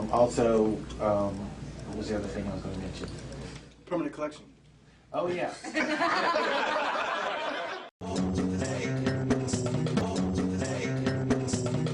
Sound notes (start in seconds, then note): 5.7 audience laughs; 8.0 smooth hip hop music